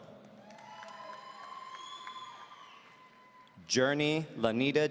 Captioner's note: audience cheering